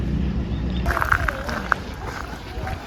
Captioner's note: footsteps on the ground